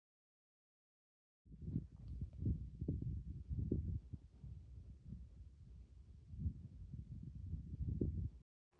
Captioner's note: wind blowing